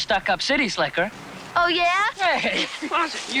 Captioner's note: laughing